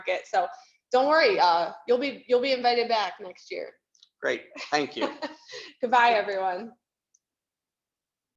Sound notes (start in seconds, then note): 5.0 laughs